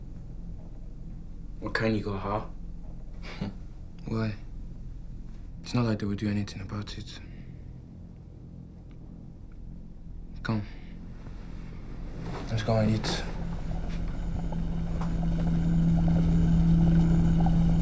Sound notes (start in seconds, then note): 3.2 China chuckles; 13.2 music builds gradually